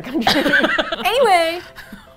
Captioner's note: both laugh; laughs